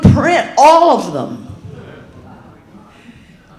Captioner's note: audience laughing